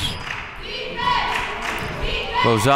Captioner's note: claps